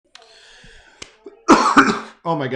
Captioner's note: coughs